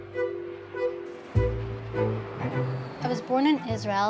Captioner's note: soft lively music; jet engine roaring distantly